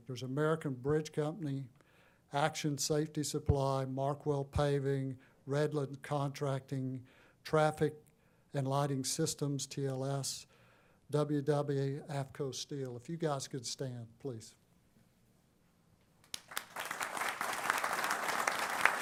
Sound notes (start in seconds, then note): 16.2 applause